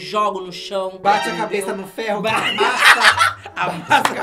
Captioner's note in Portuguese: risos